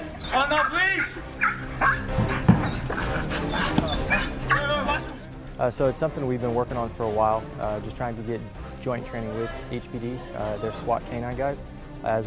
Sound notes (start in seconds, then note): 1.8 intense music; 4.0 dog whining